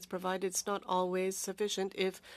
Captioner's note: speaking French